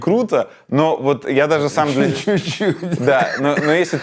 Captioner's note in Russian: Смеясь